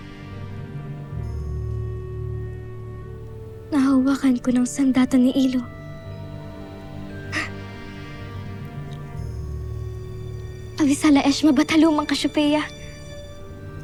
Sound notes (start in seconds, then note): 7.3 chuckles softly